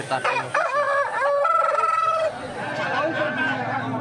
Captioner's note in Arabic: صياح الديك; همهمات الحشد